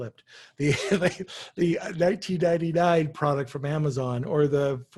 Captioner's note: chuckles